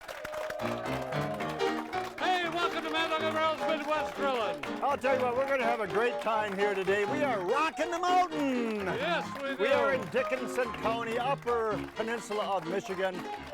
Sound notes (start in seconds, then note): 1.2 audience applauding; 1.2 upbeat piano music